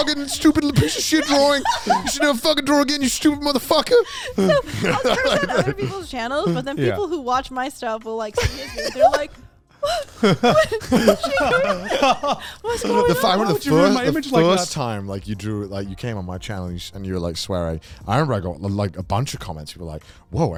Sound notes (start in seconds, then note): 13.5 men laugh